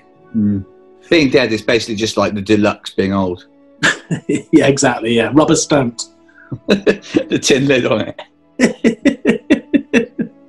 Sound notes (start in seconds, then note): 3.6 chuckles; 8.6 giggling; 8.6 laughs